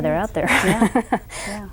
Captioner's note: laughs